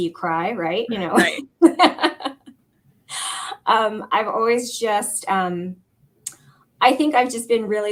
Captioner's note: laughter